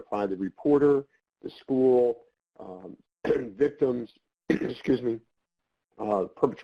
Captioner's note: cough